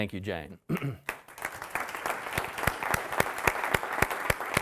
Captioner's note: audience applauding